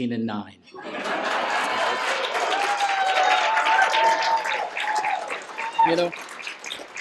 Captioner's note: cheers and applause